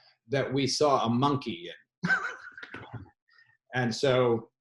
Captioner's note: laughs